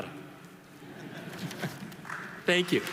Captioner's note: audience laughing